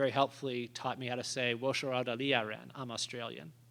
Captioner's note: speaking Chinese